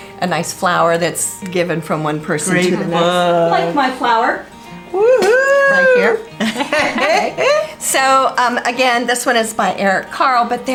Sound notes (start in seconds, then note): 4.9 cheers; 6.4 all laughs